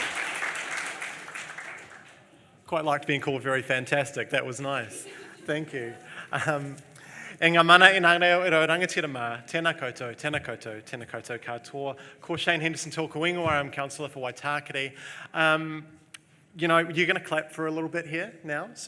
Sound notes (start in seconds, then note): 0.0 applause; 7.7 foreign language